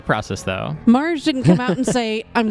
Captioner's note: laughs